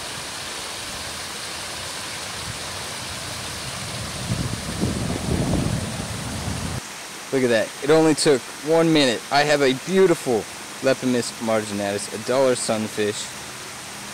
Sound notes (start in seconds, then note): 0.0 water running; 4.2 wind blows on mic